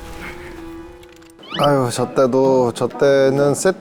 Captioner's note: groaning